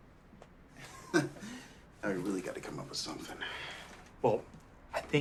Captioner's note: laughs